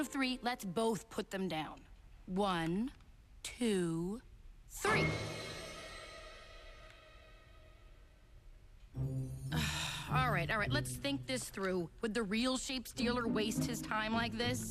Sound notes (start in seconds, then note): 9.0 sighs